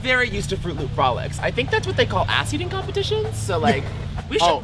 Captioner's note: beep